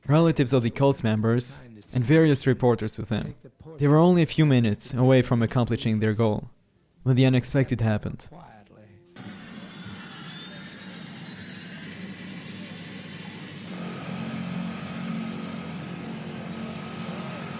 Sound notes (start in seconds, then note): 9.2 audio screeching; 14.0 plane roaring